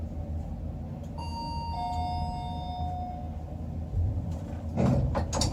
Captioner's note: chime